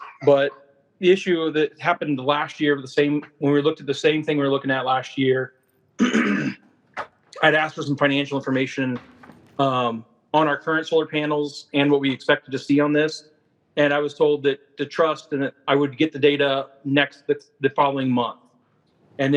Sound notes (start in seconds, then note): 6.0 clearing throat